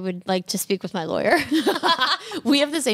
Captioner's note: laughs